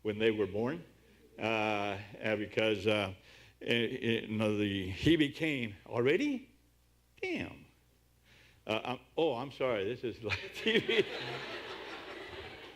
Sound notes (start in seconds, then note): 10.3 laughter